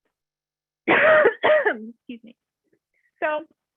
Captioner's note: coughs